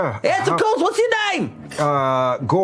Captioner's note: doing a weird screamy goblin voice